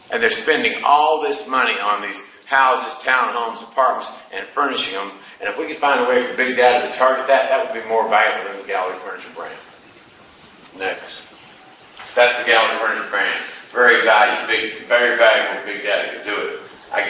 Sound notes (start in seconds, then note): none